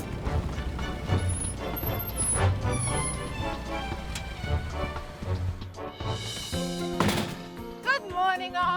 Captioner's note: upbeat music; trailer door opens